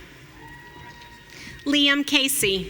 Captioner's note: audience cheering